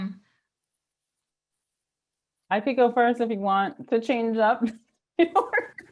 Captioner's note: laughs